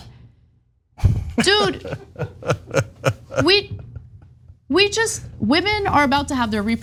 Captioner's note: laugh